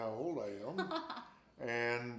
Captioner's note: laughs